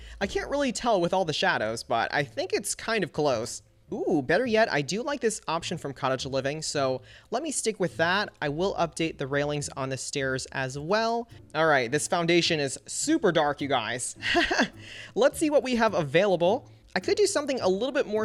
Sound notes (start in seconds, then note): 14.2 laughs